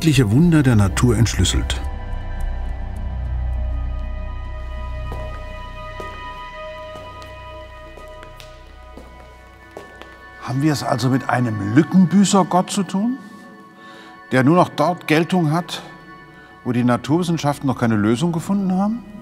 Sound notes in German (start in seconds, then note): 3.8 Schritte in der Kirche